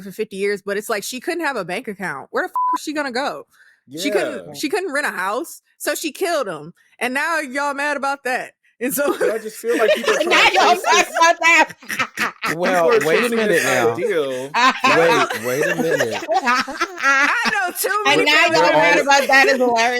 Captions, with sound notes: Not homicide. Not homicide, sister. Nobody in your family ever killed their spouse? Just like the family? No. Oh. No. None of y'all. It must be true. Y'all ain't never heard of the stories of Aqua Tofano? Because it was very popular. I'm not related to her. I'm not related to her, girl. (laughing) No blood relations, sister.